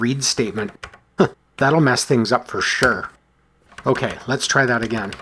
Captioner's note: chuckles